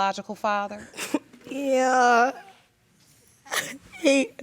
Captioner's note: sobbing